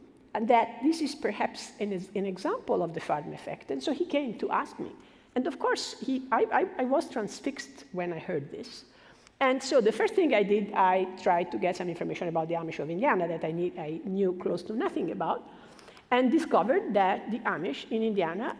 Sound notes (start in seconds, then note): none